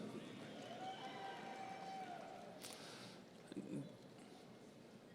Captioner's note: audience cheering